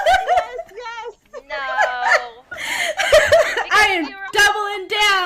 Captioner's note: laughter